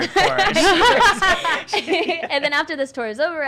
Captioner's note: laughing